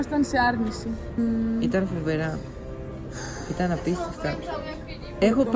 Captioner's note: sigh